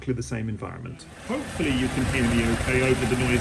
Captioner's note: engine running in background